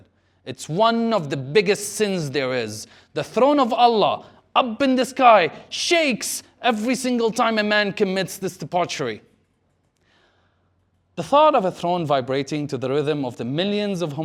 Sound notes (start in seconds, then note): none